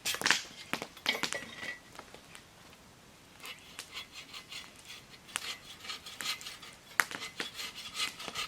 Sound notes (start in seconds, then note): 3.4 sawing